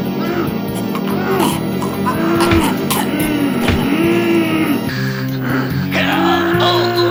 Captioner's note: Dracula choking; monster wailing